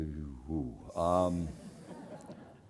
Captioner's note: laugh